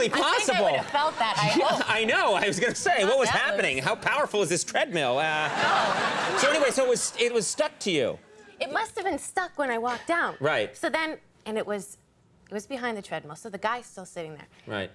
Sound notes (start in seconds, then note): 4.8 audience laughing